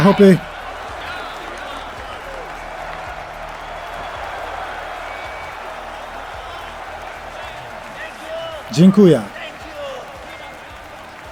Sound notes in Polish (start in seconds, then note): 3.9 ludzie wiwatujōm i gwiżdżōm